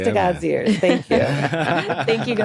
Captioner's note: all laugh